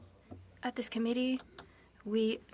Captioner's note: speaking French